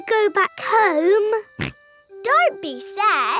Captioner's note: snorts